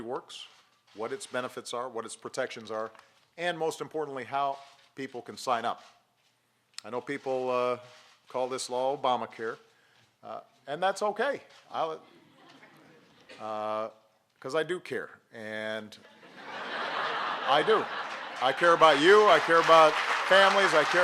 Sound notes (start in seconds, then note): 12.5 laughter; 16.2 laughter and applause